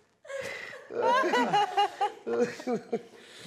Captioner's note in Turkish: Gülme sesleri